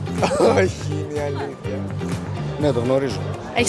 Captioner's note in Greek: γέλια